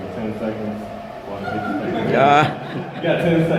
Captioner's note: crowd laughter